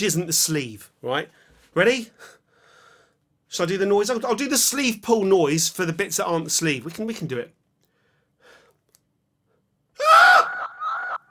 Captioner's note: the sleeve-pull noise is just a sharp intake of breath